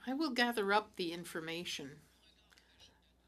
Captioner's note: speaking French